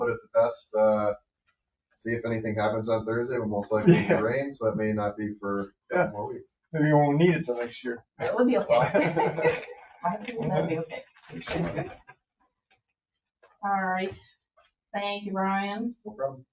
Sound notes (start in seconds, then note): 8.6 several people chuckling